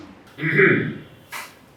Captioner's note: clears throat